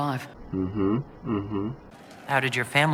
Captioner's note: positive noises